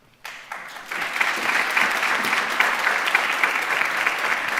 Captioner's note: audience applauds